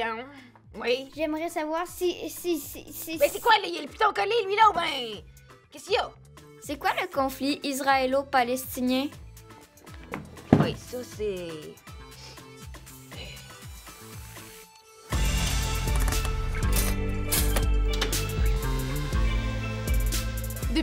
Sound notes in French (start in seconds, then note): 12.0 reniflement